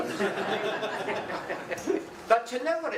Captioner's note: audience laughing